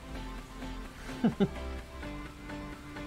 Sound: chuckles

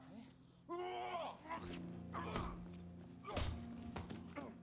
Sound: grunting

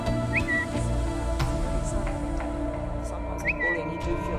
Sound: notification chirp

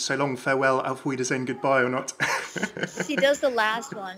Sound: laughs

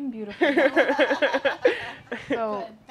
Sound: laughter

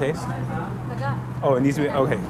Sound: chef speaking foreign language

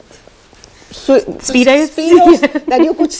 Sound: laughing

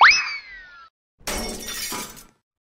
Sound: crash

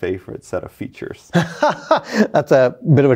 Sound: laughing

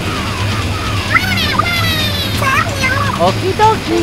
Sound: Inkling gibberish

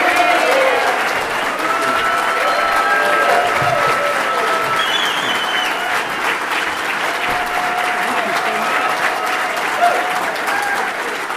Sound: applause

